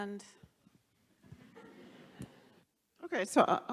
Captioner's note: audience laughs